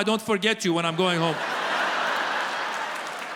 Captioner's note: audience laughs